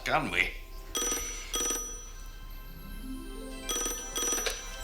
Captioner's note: phone ringing